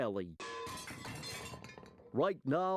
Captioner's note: metallic clanging